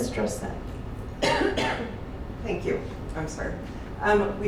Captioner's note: coughs